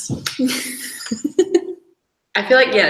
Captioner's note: laughs